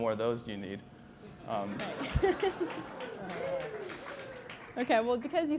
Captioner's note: applause